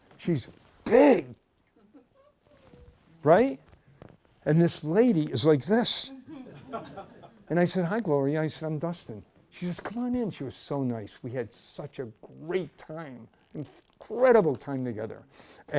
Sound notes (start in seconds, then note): 6.2 laughter